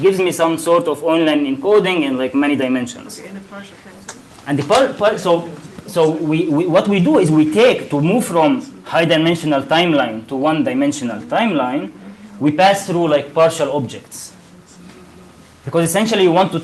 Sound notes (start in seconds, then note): none